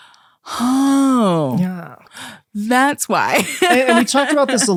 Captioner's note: laughs